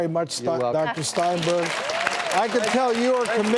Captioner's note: crowd clapping